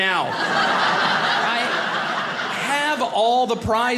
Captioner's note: audience laughing